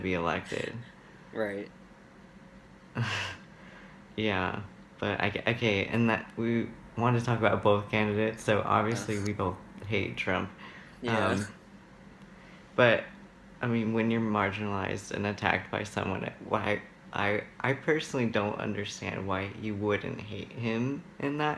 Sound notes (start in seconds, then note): 3.8 laughs; 11.8 ugh